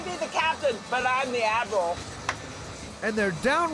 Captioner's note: claps